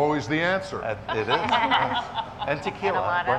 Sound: people laughing

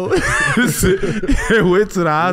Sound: all laughing

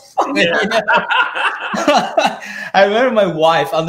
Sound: both laughing

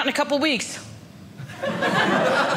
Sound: audience laughing

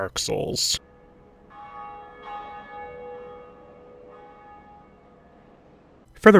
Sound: bell Chimes

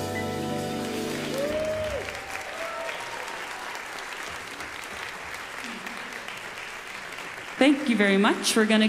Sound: audience applause

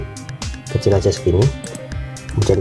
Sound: click

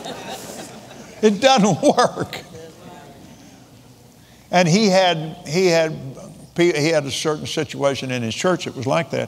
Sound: laughs

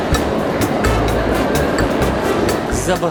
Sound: crowd noise

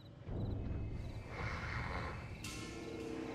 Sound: snores

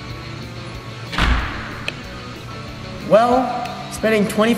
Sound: door slams

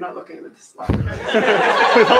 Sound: laughing

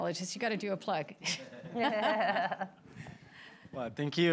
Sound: laughter

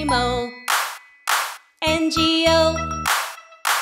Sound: claps, claps

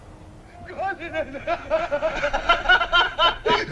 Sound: people start laughing

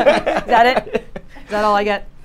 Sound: both laugh

